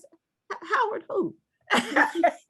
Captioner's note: laugh